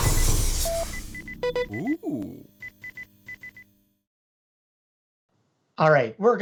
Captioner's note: computer machine sounds